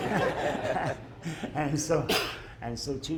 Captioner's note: laughter